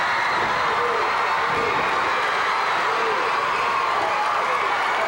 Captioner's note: crowd cheering